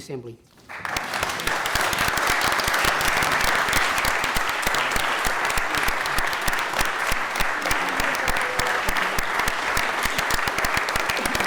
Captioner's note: applause